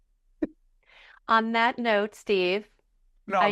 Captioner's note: both laughing